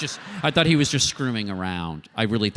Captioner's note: laughter